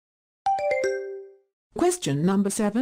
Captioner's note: question ding